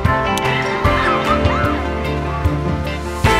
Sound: children laughing

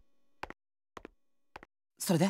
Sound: silence

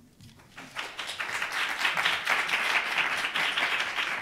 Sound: applause

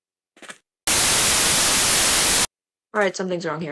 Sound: static

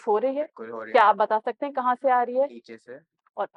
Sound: in Urdu

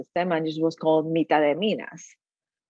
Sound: speaking in foreign language

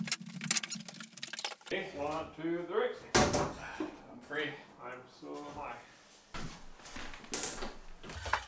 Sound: sped up sounds of temporary wall being disassembled

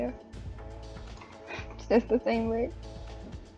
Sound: short laugh

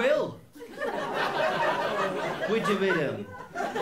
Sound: laughter

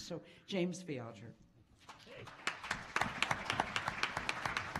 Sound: applause

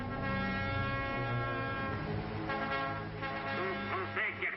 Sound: french dialogue

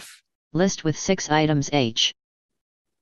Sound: computer Voice

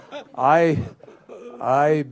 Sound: laughter

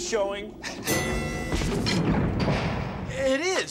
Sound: bell dings

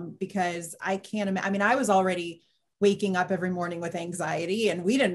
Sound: none

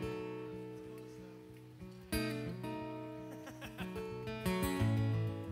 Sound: laughs

